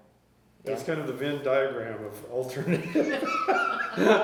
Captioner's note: laughter